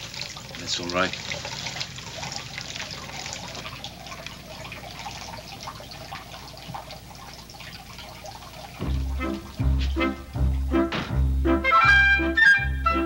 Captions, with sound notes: - That's all right. (water gurgling) (bright music)